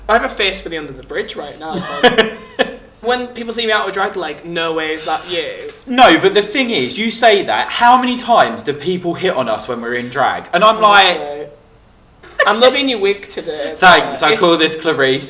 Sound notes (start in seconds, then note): 1.7 laughing; 5.9 gasps; 12.2 laughs